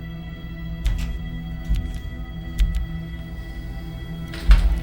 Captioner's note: power switching on